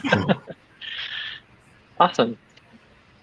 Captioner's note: laughing